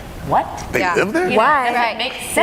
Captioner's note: chuckles